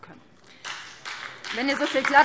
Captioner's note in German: Beifall BÜNDNIS 90/DIE GRÜNEN, SPD und DIE LINKE